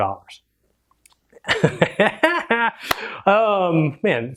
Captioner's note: laughs